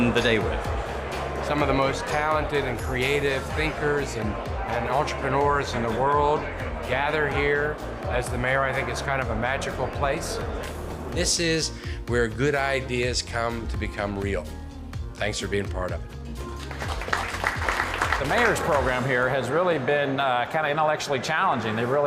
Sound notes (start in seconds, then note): 16.5 audience applauds